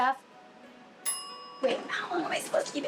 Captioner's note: timer dings